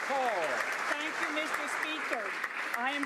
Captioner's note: speaking ukrainian